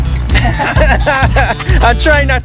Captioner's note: laughing